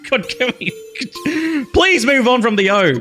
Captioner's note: laughs